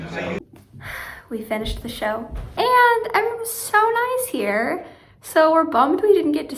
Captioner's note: sigh